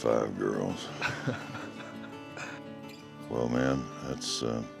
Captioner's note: coy chuckles